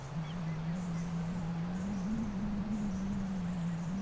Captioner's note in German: Windgeräusche & Vogelgezwitscher